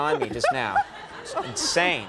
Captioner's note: Alison laughs